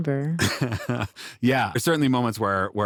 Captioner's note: chuckles